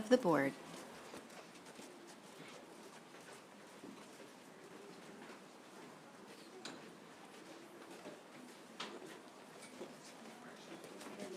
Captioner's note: group talking in background